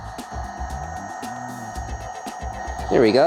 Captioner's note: tools whirring